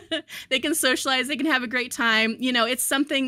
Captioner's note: chuckles